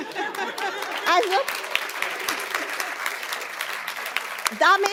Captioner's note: laughter and applause